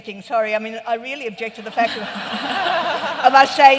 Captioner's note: laughter